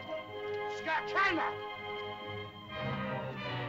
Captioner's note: Tumak shouts at caveman